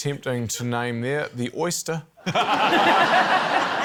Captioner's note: laughter